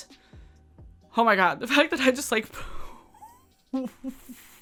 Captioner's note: giggles